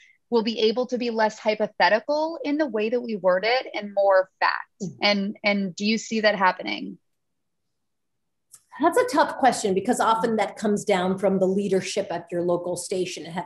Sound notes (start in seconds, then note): none